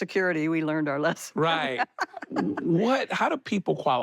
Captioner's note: she laughs